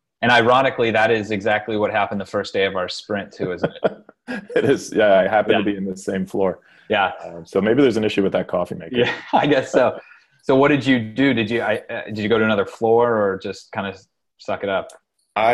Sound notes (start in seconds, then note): 3.3 laughing